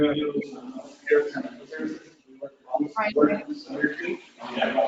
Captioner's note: people chattering